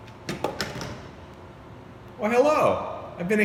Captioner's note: phone clambers against base